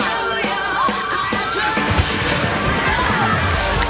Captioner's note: cheering guests